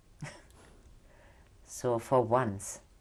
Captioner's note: pauses for 3 seconds; laughs